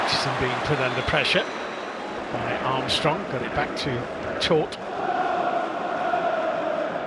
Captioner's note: applause